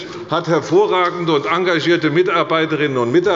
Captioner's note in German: none